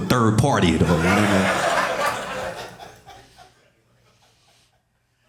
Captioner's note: audience laughing